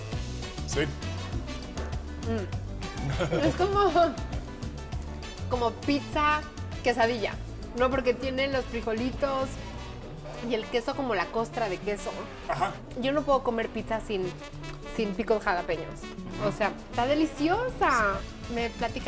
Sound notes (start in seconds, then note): 0.3 speaking Spanish; 2.9 laughs; 3.2 speaking Spanish; 13.2 all speaking Spanish